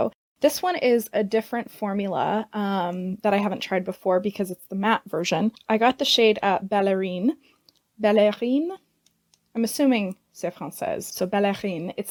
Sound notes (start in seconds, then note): 7.2 with French accent